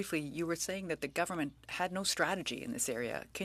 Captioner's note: speaking french